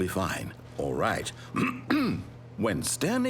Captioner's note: ahem